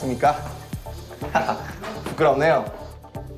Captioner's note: haha